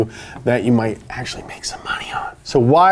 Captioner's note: whispering